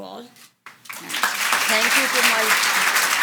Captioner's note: audience applauds